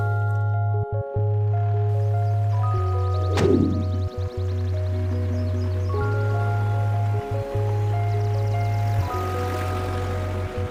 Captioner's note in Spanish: Ruido de motor